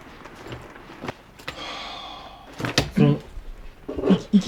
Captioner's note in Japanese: 大きく息を吐く